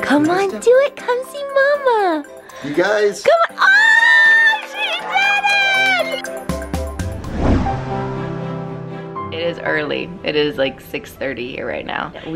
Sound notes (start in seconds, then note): 3.6 excited squealing